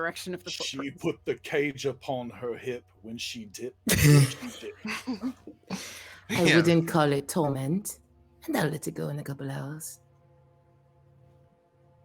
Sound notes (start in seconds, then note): 3.8 people laughing